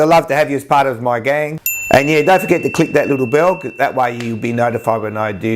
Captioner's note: bell sound